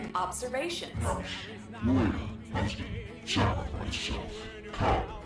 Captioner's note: distorted voice